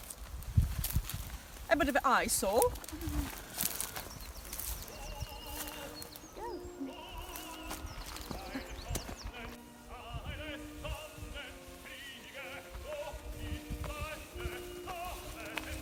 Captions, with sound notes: A bit of an eyesore. (laughs)